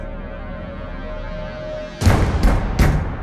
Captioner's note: knock. Knock. Knock